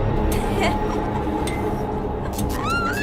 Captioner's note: cackles wildly; shrieks, laughs manically